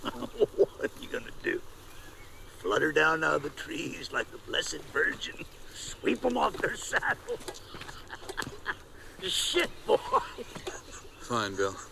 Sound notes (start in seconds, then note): 5.7 laughs